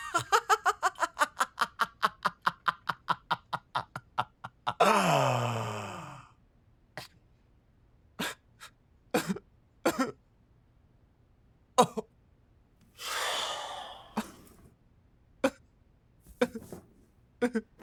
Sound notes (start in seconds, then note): 0.0 laughing; 7.7 crying; 13.0 Carl sighs